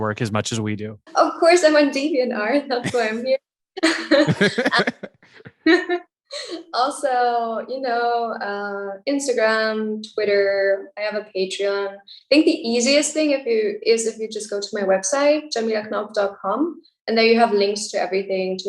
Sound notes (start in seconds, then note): 3.8 all laughing